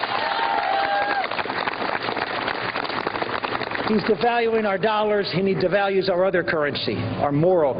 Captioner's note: applause